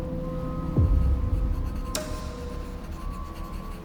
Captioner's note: pencil scratching